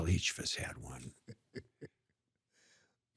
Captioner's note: laughs